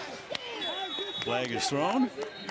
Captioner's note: whistle